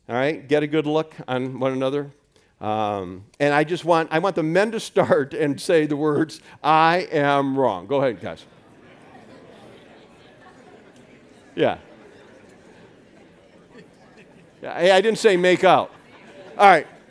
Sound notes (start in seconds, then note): 9.5 chatter from audience